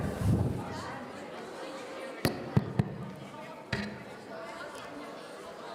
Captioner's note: students in the crowd conversing